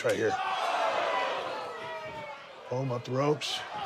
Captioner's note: audience cheers